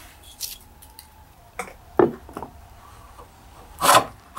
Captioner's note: tools scrape